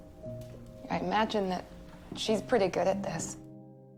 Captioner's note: voiceover